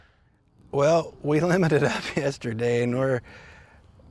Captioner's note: chuckles